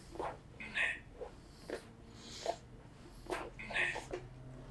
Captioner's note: achmet – artificial male voice